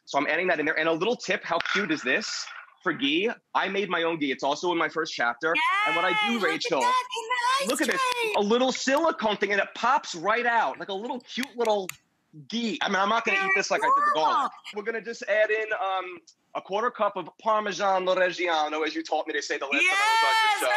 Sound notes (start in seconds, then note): 7.6 claps